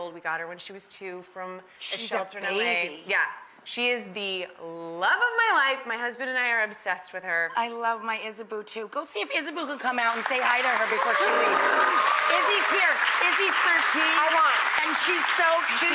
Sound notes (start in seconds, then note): 10.0 audience applauds; 11.3 D'Arcy groans